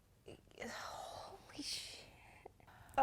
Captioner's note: in a sigh